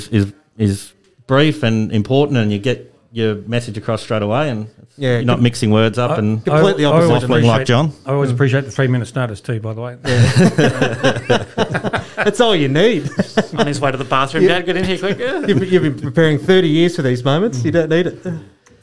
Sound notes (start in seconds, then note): 10.0 laughter